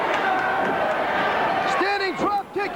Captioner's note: crowd cheering